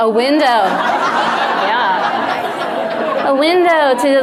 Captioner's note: audience laughs